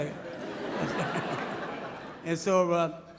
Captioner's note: audience laughs